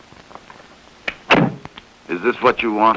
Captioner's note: door bangs